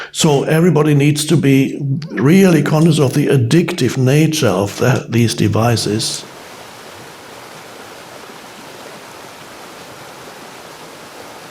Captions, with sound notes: So everybody needs to be really conscious of the addictive nature of these devices. (water flowing)